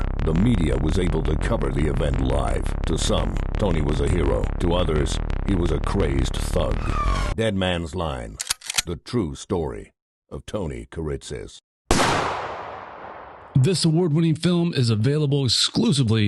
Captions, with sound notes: the media was able to cover the event live. To some, Tony was a hero. To others, he was a crazed thug. "Dead Man's Line," (gun cocks) the true story of Tony Kiritsis. (gunshot) - This award-winning film is available exclusively